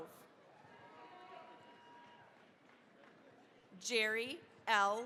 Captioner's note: cheering, applause